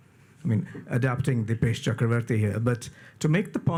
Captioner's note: audio blurs